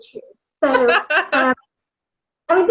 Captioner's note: laughs